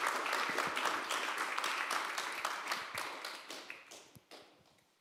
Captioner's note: applause